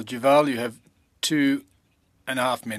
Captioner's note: speaking French